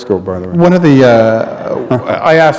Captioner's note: laughter